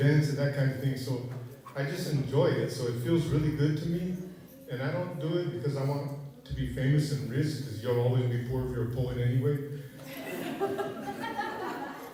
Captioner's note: laughter